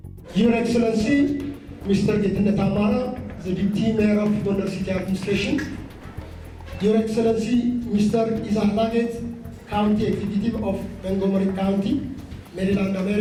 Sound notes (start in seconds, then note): 0.5 foreign Language